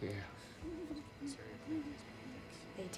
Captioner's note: baby crying